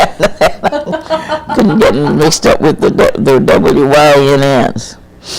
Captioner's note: laughs